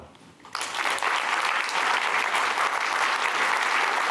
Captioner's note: applause